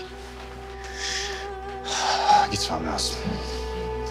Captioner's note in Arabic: يتنهد كينان